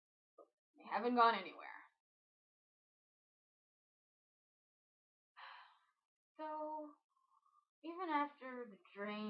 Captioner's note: sigh